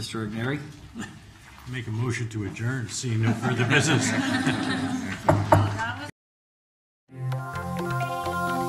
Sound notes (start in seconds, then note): 3.2 laughing